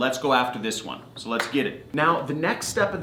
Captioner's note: clapping